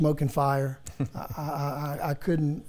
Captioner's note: chuckles